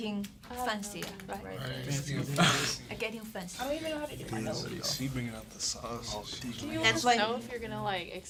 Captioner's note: murmur